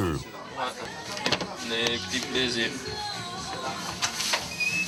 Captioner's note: French spoken audio